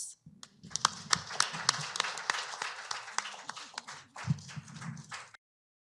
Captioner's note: applause